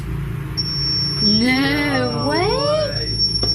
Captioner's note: beeping